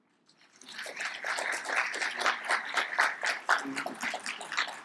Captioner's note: audience claps